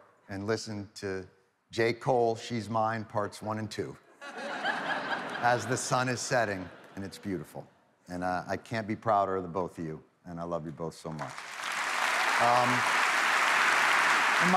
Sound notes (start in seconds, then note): 4.2 audience laughing; 11.2 audience applauds